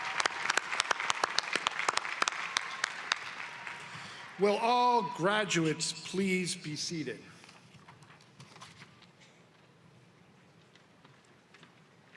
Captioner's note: applause